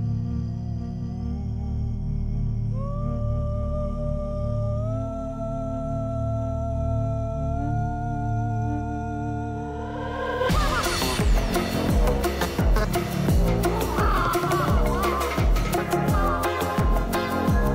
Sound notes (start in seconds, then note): none